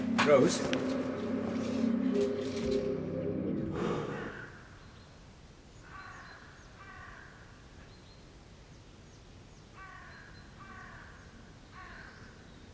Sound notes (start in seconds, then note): 5.8 birds cawing